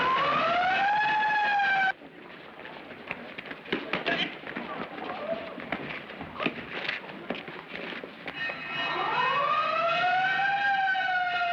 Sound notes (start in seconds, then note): 8.4 bell Clanging; 8.6 siren